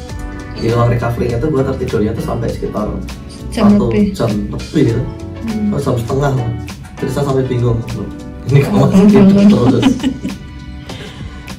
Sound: chuckles

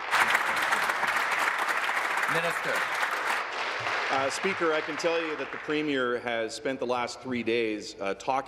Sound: applause

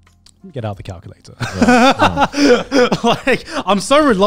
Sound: everyone laughs

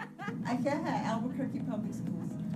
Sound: girl laughing

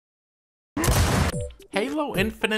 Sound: gunshot

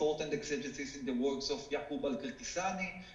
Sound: speaking foreign language

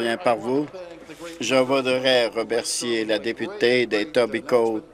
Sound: some Applause

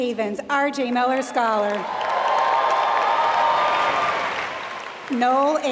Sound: applause

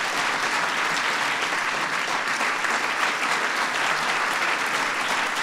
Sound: applause

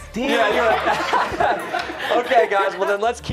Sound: laughter

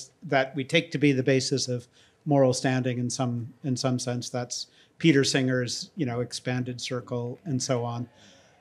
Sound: none

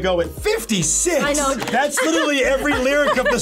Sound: laughs

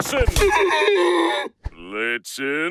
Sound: neighs loudly

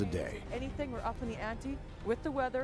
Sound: voiceover

